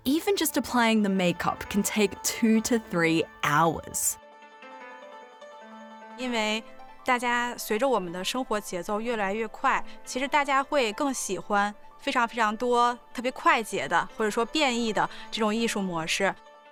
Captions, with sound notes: Even just applying the makeup can take two to three hours. (mystical music) (speaking foreign language)